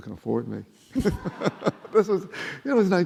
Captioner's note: laughing